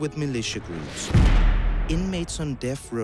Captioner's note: bomb thuds